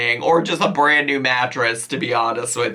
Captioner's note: none